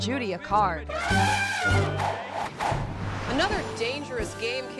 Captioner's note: elephant trumpeting